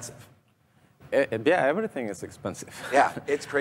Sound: laughs

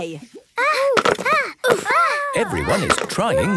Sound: all grunting

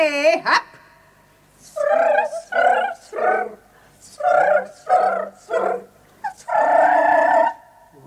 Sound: the cats purr in a melodious chorus

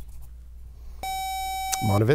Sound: buzzer

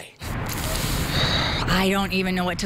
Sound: sighs

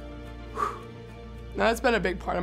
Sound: sighs

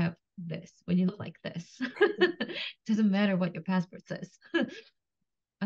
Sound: laughs

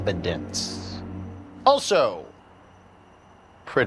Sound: none

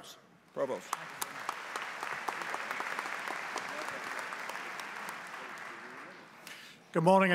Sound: applause

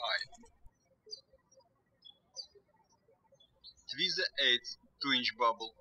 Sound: birds chirping

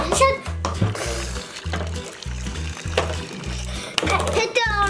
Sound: sound of liquid pouring

